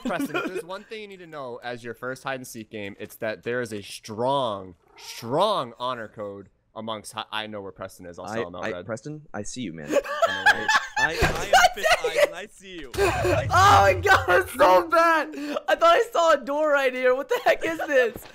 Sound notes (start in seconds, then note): 10.4 cracks up